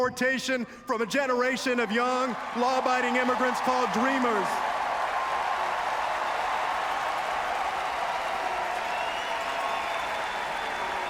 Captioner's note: applause